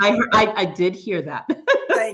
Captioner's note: laughs